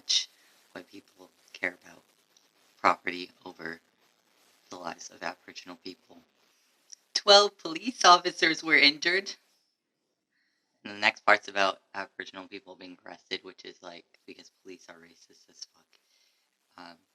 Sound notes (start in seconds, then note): 6.7 whining; 9.5 normal voice